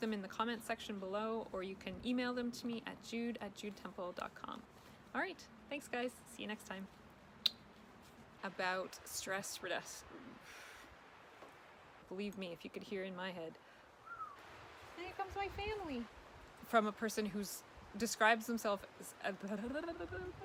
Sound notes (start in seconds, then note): 14.0 whistles